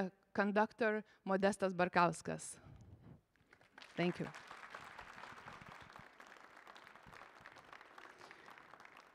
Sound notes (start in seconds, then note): 6.3 applause